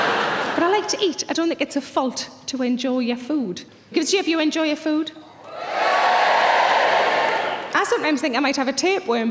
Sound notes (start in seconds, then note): 5.4 audience cheering